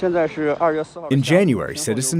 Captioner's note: speaking foreign language